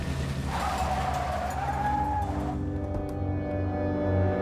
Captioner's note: tires screech; tense music